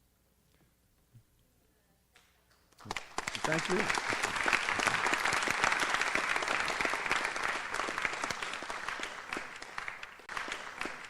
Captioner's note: audience applauds